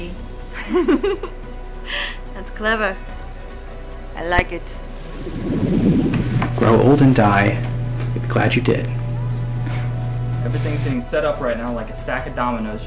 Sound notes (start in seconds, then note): 0.5 giggles